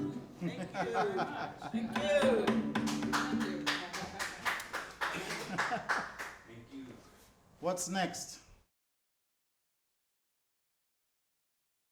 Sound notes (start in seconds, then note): 0.4 laughter; 2.4 clapping